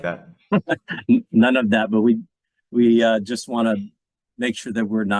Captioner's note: laughing